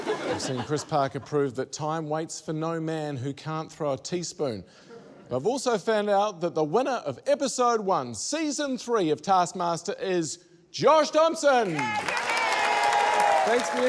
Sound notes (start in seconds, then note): 11.6 cheering, applause